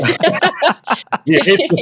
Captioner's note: laughing